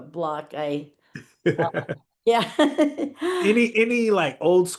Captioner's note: laughing